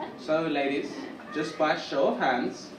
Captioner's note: audience chuckle